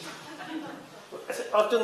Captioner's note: laughter